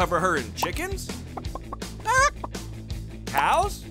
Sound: cackling

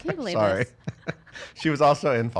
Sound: laughter

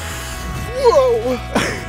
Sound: laughing

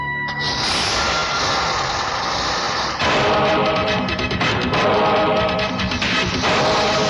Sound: car Engine Start

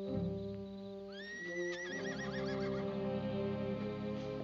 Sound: horse neighs

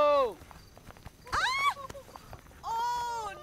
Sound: screams

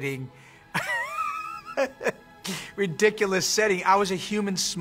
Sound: laughs

